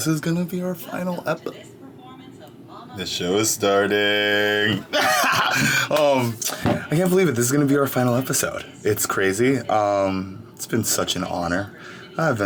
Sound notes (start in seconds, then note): 4.6 laughing